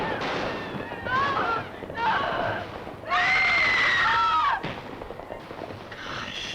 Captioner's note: screaming